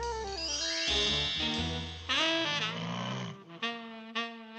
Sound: snoring

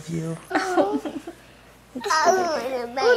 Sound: laughter

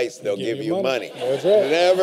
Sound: laughter

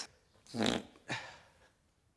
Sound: regular fart sound without reverb

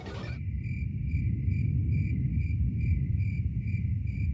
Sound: crickets chirping

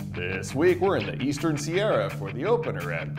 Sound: none

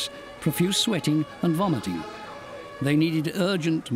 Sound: ambulance siren wailing

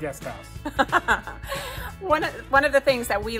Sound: laughs

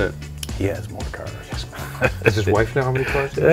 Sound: laughing

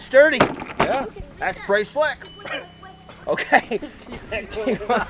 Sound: ding; both laughing

